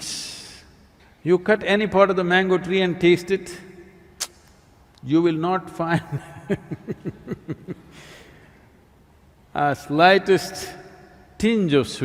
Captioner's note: laughs